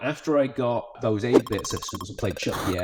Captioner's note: audio warbling